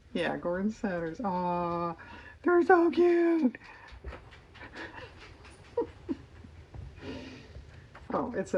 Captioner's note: laughs